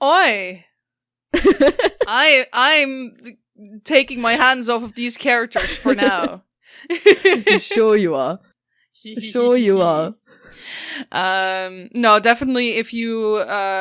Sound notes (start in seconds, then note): 6.8 laughs